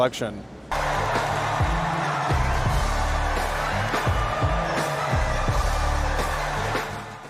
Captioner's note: applause and music